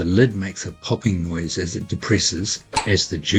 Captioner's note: pop; pop, pop